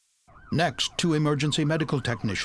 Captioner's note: sound of sirens